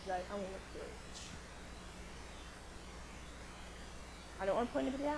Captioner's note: buzzing drowns out speaker